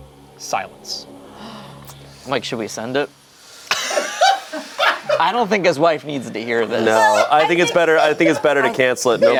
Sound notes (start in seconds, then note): 1.4 gasps; 3.7 group laughs